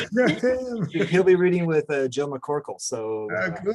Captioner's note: laughs